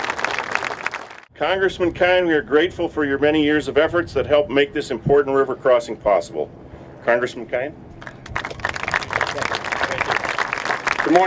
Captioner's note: applause